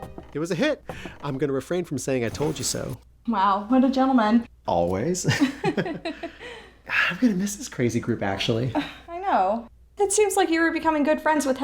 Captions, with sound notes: It was a hit. I'm going to refrain from saying I told you so. Wow, what a gentleman. Always. [laughter] I'm going to miss this crazy group, actually. I know. It seems like you were becoming good friends